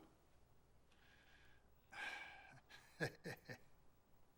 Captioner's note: laughs